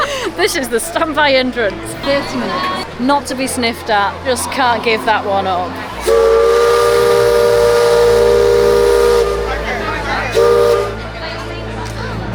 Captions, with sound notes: This is the standby entrance. 30 minutes. Not to be sniffed at. Just can't give that one up. [Steamboat whistling]